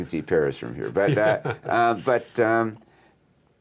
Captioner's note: laughs